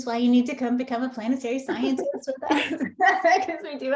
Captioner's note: laughs